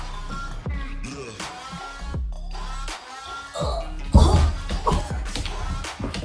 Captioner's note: more squeaky sounds